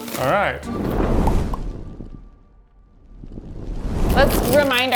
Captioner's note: flames whooshing